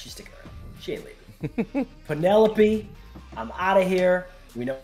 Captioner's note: laugh